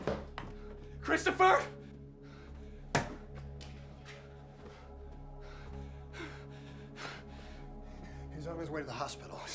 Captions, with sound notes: - Christopher? (door thuds) (Addison pants heavily) - He's on his way to the hospital.